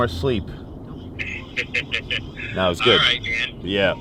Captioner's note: laughing